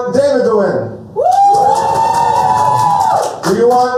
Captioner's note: cheers